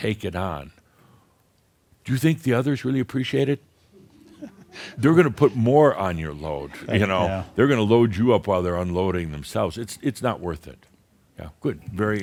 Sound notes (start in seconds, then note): 4.0 a few chuckles